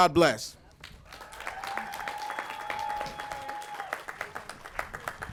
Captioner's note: applause